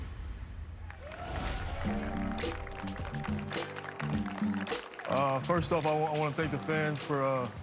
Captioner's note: applause